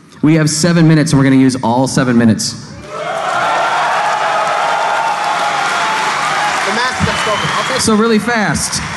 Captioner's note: applause